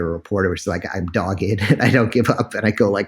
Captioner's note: laughs